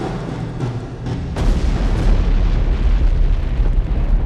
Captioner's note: booming